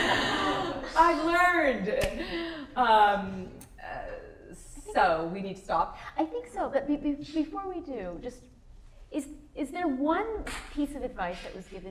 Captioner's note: laughter